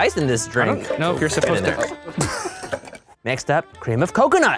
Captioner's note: laughs